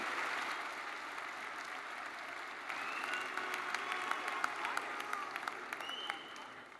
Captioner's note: attendees cheering and applauding